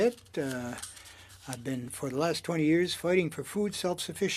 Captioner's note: speaking French